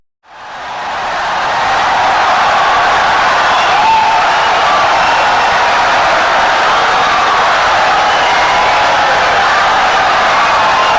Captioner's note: wild applause and cheering for 17 seconds